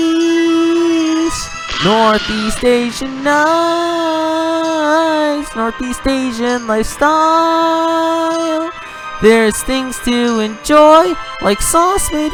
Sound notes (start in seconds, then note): 1.5 Explosion with Wilhelm scream sound effect